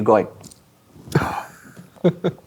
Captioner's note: gasps; players laughing